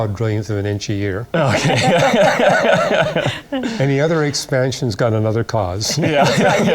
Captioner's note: laughter